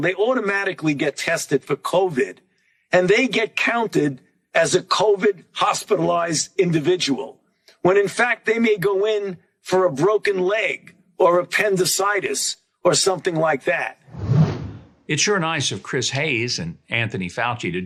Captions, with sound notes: they automatically get tested for COVID and they get counted as a COVID-hospitalized individual when in fact they may go in for a broken leg or appendicitis or something like that. (air whooshing) - It's sure nice of Chris Hayes and Anthony Fauci